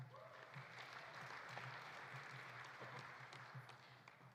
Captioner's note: audience applauding